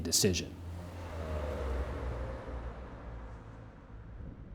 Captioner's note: traffic humming